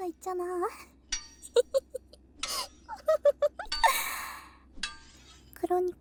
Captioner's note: laugh with the constant sound of digging the ground